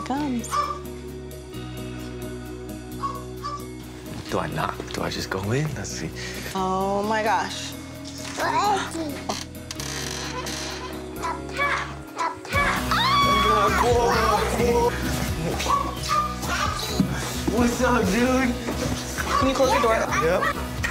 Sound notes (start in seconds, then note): 13.1 squealing